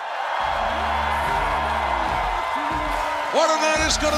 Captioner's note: cheers and applause